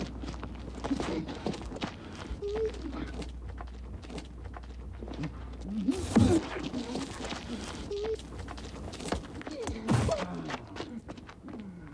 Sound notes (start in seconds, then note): 1.5 footsteps crunching; 5.8 fighters moaning; 8.7 footsteps crunching